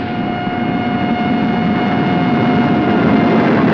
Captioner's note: rumble of train